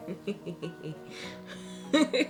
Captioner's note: laughs